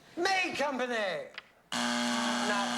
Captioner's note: buzzer